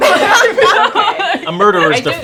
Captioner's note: laughing